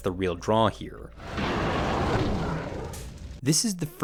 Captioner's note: monsters growling